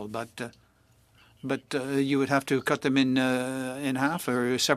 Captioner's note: speaking French